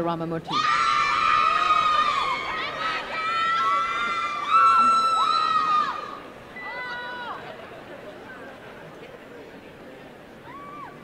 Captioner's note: cheering and applause